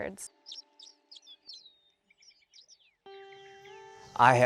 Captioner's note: birds singing